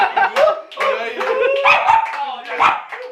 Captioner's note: Tedy starts barking